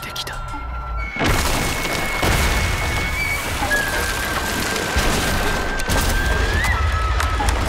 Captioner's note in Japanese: 寺が崩れる音